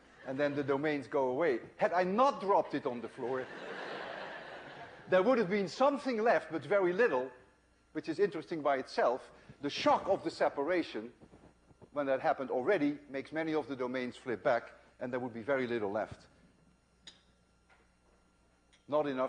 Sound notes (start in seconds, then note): 3.2 laughter